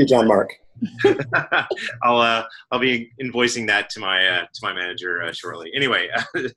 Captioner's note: laugh